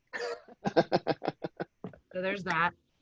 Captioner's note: laughing